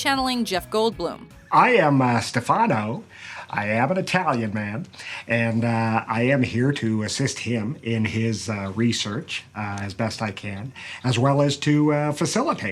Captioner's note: in italian accent